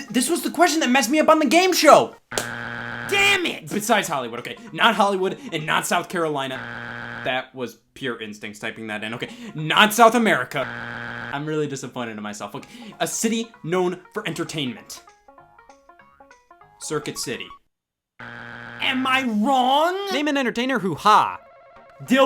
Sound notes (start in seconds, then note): 2.3 buzzer beeps; 6.6 buzzer beeps; 10.6 buzzer beeps; 18.2 buzzer beeps